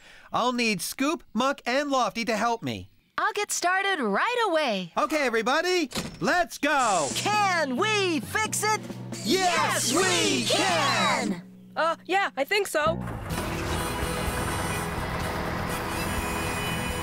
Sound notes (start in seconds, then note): 13.0 engines Running